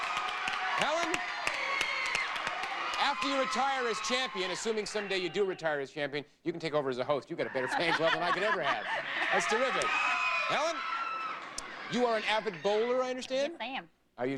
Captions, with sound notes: Helen, after you retire as champion, assuming someday you do retire as champion you can take over as a host. You got a better fan club than I can ever had. That's terrific. [audience cheering] Helen, you are an avid bowler I understand? Yes I am.